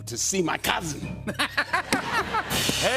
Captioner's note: laughter